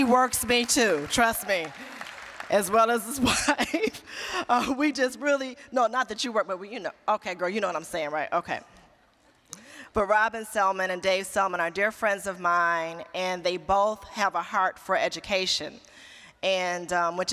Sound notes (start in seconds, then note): 4.2 laughing